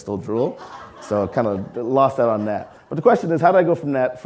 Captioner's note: audience laughing